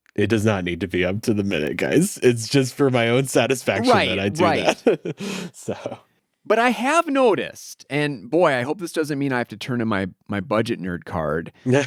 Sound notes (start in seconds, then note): 3.8 laughs